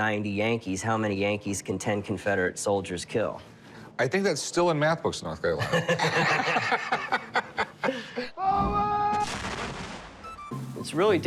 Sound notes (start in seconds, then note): 5.6 laughter; 8.2 man yelling; 9.2 cannon blast; 10.3 military music